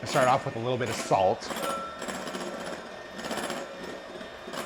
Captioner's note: whirring